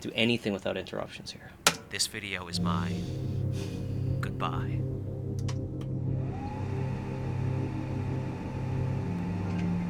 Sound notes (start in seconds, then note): 2.2 click; 6.1 whirring